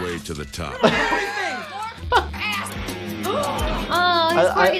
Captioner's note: actors yelling over each other